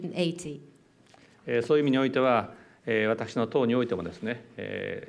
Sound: speaking japanese

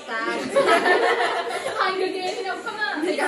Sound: laughing

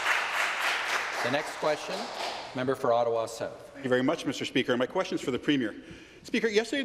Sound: applause

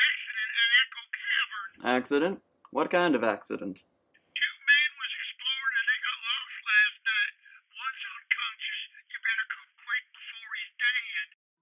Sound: on phone; on phone

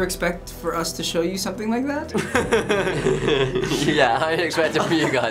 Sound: reactors chuckle

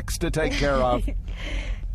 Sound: Sarah Jessica Parker giggles

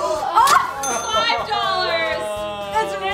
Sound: bell dings

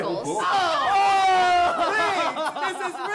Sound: all groaning

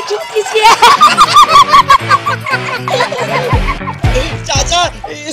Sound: laughing

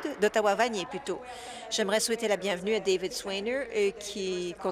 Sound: applause

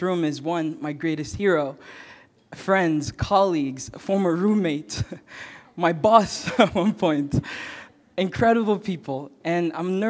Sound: chuckle

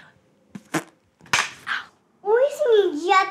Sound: clap

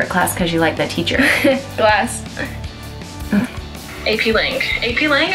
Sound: laughs

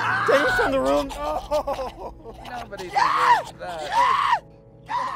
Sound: screaming continues

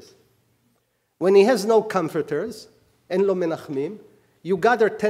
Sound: speaking hebrew

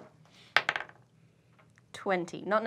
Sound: dice clacks

